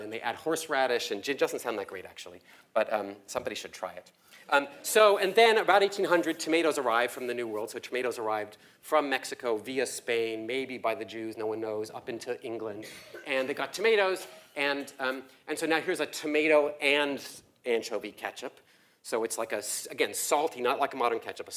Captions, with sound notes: And they add horse radish and doesn't sound that great actually. But somebody should try it. So and though about 1800 tomatoes arrived from the new world. So tomatoes arrived, from Mexico via Spain, maybe by the Jews, no one knows, up into England. [LAUGH] >> [COUGH] >> And they got tomatoes and and so now here's a tomato and anchovy Ketchup. So it's like a, again, salty, not like a modern Ketchup.